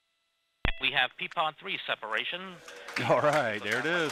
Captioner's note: Clapping in the Delta Launch Control